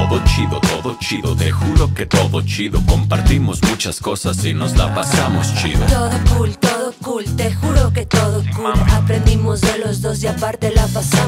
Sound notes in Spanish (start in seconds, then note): 4.6 Jajajajaja